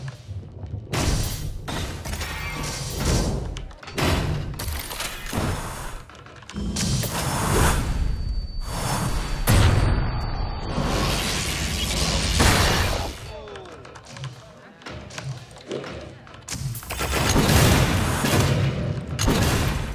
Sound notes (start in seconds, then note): 6.5 thudding and slamming; 8.6 electricity zapping; 8.6 guns firing; 16.4 guns firing